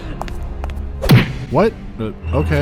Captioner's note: dunk